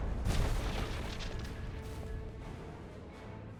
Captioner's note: explosion